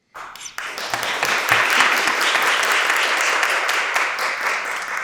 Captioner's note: audience applauding